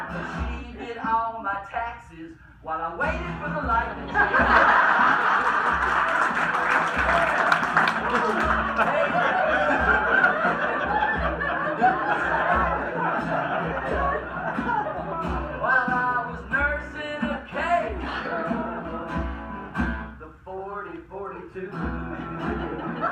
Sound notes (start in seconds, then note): 3.9 crowd laughs; 21.6 guitar strums